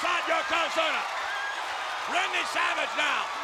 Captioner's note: audience cheers